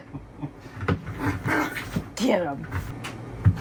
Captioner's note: laughing; Daisy growling